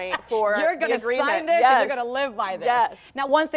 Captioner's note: laughter